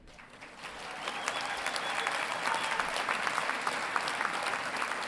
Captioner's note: audience cheering and applauding